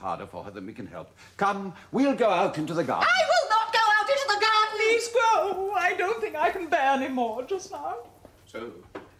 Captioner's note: MYRA, screaming